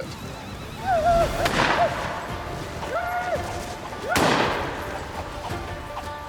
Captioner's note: yelling, gunfire